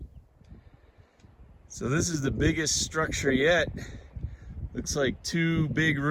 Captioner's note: light wind noise